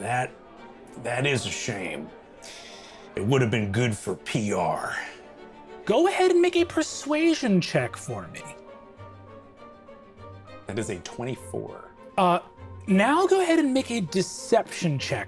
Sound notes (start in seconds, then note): none